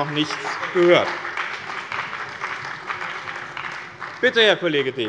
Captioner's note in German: Beifall bei dem BÜNDNIS 90/DIE GRÜNEN und der CDU